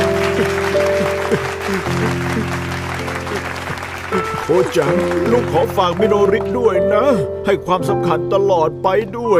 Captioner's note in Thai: ปรบมือ